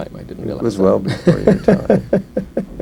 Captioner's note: laughter